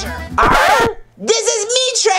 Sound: record scratches

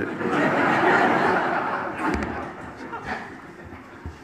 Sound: audience laughs

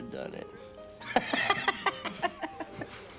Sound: laughs

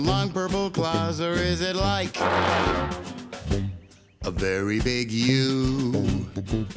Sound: loud honking

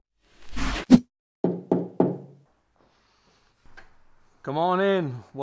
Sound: knocking

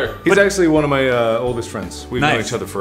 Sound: none

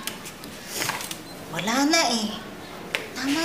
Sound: sniffling

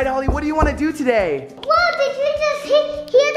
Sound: knocking

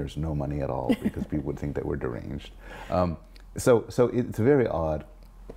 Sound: laugh

